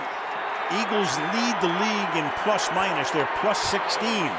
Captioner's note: pa announcement